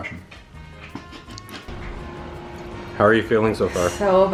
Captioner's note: laughing